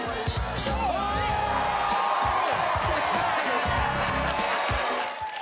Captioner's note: crowd cheering